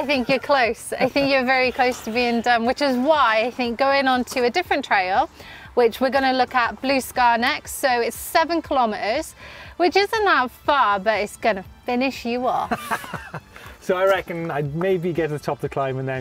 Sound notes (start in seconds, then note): 12.6 laughter